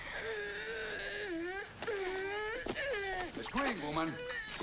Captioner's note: Hundra groaning